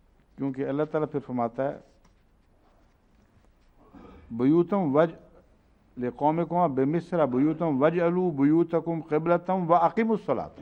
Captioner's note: Arabic